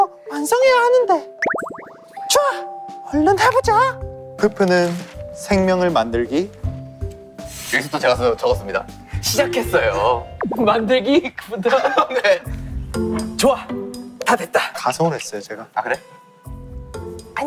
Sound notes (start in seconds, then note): 9.7 unable to hold the laughter